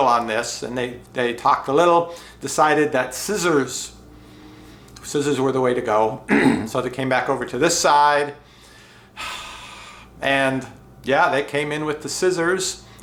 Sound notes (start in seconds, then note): 6.2 clears throat; 9.1 sighs